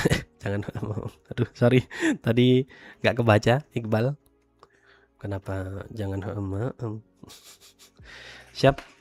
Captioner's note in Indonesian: tertawa